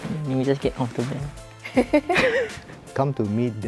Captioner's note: laughs